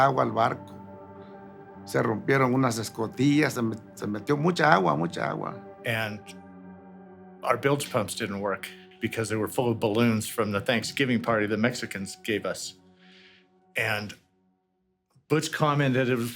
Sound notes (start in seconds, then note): 4.1 in English